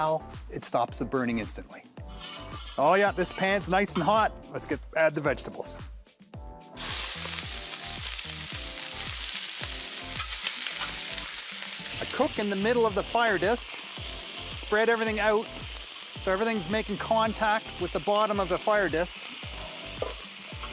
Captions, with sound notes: it stops it burning instantly. [scraping] Oh, yeah, this pan's nice and hot. Let's add the vegetables. [sizzling] I cook in the middle of the fire disc, spread everything out so everything's making contact with the bottom of the fire disc.